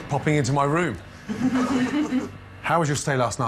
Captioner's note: all laughing